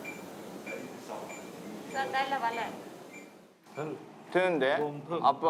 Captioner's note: machine beeps